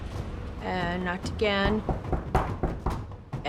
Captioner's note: knocking on door